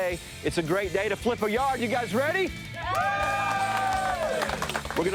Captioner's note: crew cheers